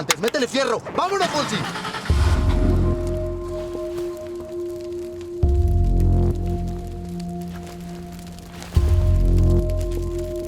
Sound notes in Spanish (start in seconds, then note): 8.9 fuego crepita